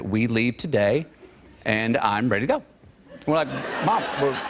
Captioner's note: laughter